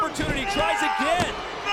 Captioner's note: Punk screams